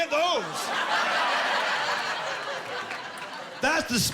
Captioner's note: laughing